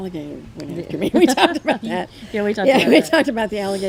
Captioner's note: laughs